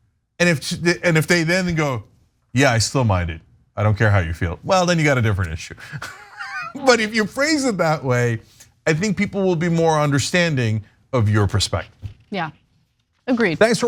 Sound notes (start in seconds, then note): 5.8 laugh